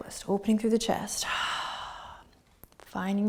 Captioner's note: exhaling